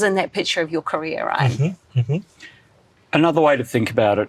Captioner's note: hums approvingly